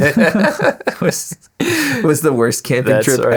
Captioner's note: laughing